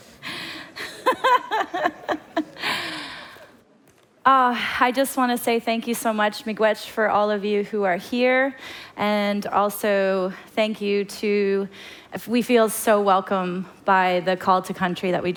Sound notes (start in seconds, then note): 6.9 foreign language